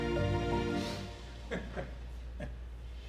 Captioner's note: sniffling; laughing